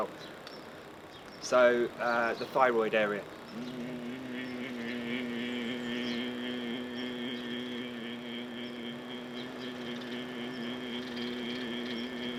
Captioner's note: humming